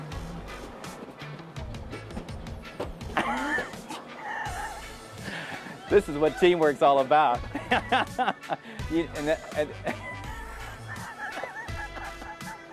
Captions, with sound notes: - The way to do this is to not have rules for building a team. This is what teamwork's all about. (laughs)